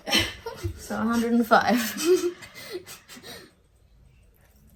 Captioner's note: both laugh